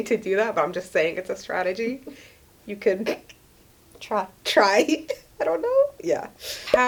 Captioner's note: laughs